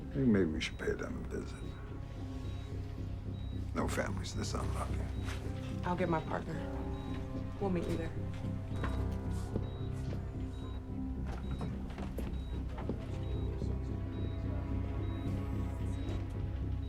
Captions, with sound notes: - I think maybe we should pay them a visit. No family's this unlucky. - I'll get my partner. We'll meet you there. (gentle tense music) (monitor beeping)